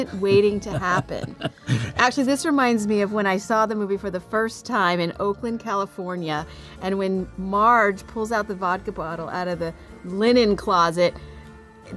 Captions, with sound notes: (Robert chuckling) Actually, this reminds me of when I saw the movie for the first time in Oakland, California, and when Marge pulls out the vodka bottle out of the linen closet,